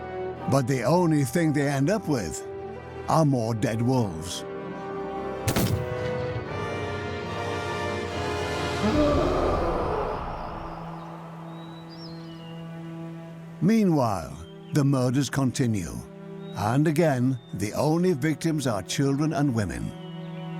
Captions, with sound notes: But the only thing they end up with are more dead wolves. (howling and snarling) (birds chirping) Meanwhile, the murders continue. And again, the only victims are children and women.